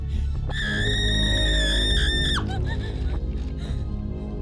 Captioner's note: Dina screams